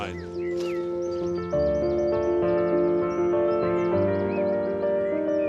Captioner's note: birds chirping; gentle piano music